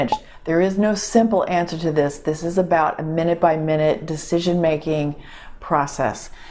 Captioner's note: pop